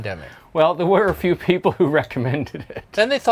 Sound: laughs

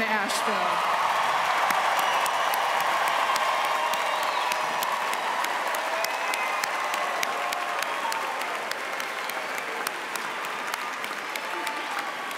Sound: cheering and applause

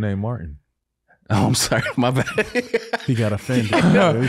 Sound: laughs

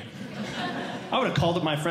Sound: audience Laughing

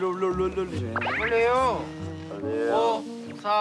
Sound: mumbles / He recites the lyrics of the wake-up song

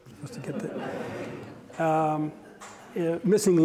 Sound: audience laughter

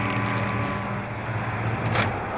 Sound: van being turned off

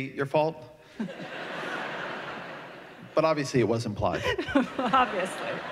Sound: laughter

